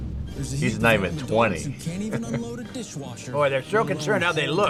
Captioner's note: laughs